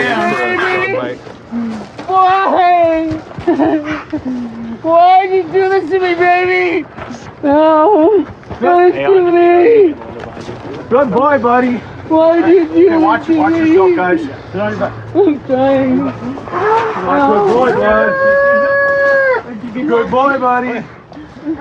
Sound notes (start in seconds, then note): 3.3 sobobs